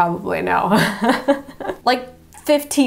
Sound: laughing

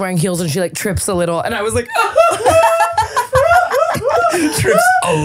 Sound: imitates sobbing

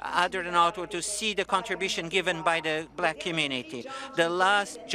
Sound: speaking French

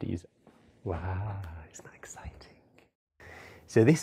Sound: whispered

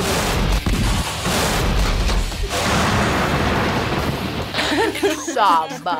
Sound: explosions echo

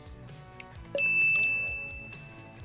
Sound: bell rings

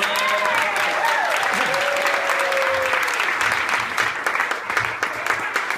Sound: cheers and applause

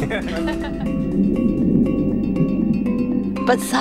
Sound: laughing

